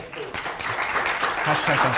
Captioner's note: applause